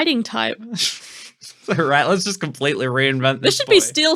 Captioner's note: laughing